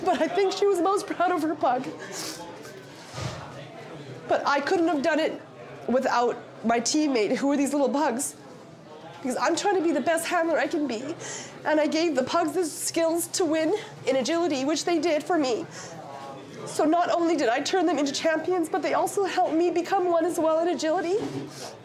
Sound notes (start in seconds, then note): 2.0 sniffles; 21.6 sniffles